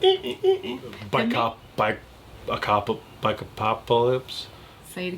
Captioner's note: stuttering